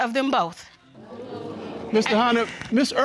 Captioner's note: audience exclaiming